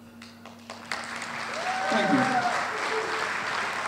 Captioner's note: audience applauds